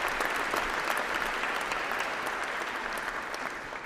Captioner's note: applause